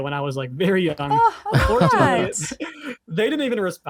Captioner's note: laughs